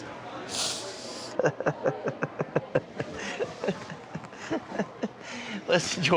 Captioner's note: tearfully chuckles